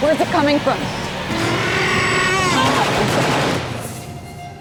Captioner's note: roars